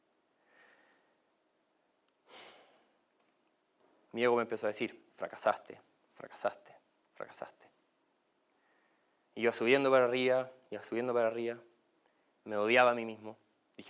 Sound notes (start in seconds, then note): 2.3 sigh